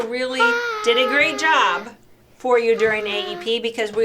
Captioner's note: shouting